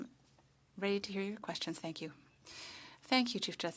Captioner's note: speaking French